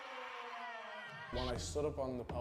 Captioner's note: crowd cheering